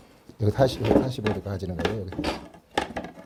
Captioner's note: tool sounds